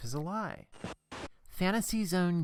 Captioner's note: static